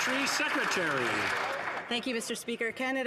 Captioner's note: some Applause